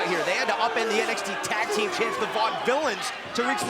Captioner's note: crowd chatter